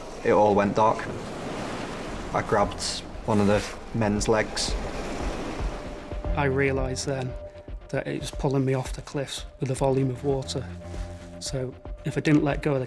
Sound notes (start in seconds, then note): 0.0 water whooshing; 4.6 waves crashing